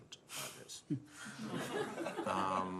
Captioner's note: laughter